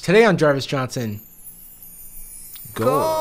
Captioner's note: sparkles tinkling